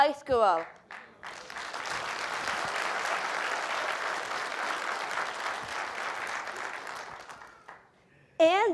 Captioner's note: applause